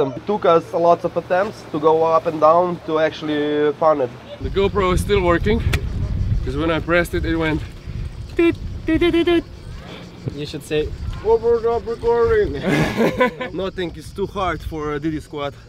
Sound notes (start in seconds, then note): 12.5 laughter